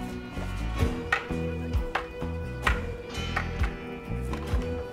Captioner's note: sticks clattering